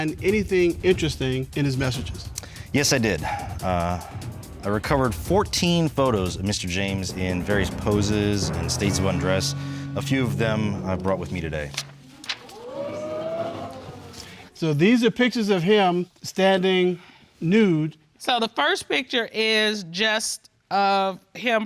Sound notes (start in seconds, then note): 12.0 audience exclaiming